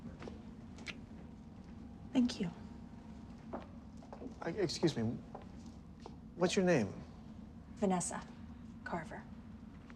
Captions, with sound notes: (lips smacking) Thank you. - E, excuse me. What's your name? - Vanessa Carver.